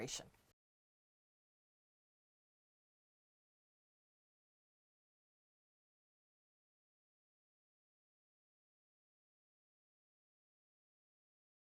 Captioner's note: no Sound Present